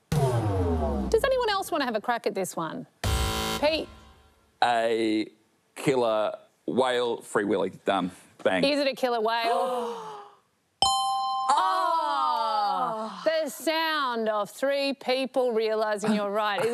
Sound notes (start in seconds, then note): 2.9 buzz!